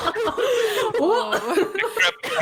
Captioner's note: all incredulous laughter; laughs